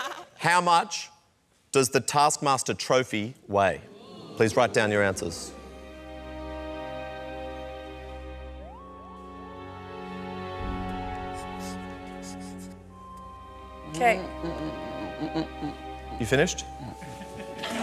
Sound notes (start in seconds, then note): 14.8 groans; 16.8 laughter